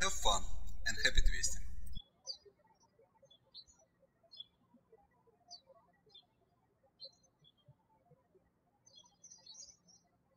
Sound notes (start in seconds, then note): 2.9 birds chirping